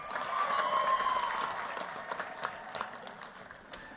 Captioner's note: cheers, applause